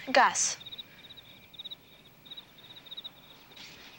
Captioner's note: crickets chirping